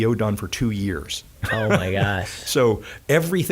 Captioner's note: laughing